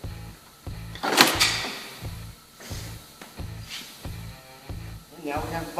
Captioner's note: bumper cover clunks